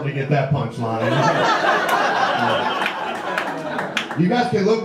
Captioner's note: audience laughter